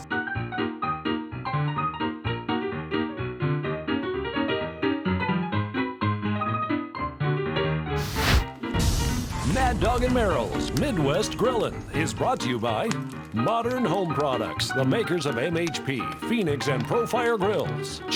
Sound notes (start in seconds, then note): 0.0 upbeat keyboard music; 8.0 torch blowing